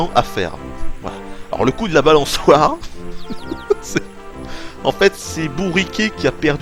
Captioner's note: laughs